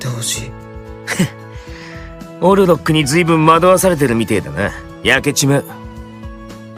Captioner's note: laughs